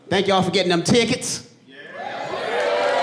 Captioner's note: audience cheering and applauding